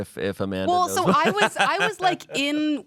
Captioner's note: laughs